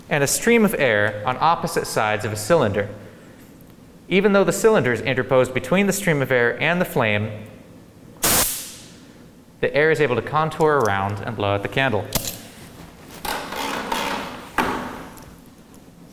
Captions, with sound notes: and a stream of air on opposite sides of a cylinder. Even though the cylinder's interposed between the stream of air and the flame, (compressor poofs) the air is able to contour around and blow out the candle. (cord clangs)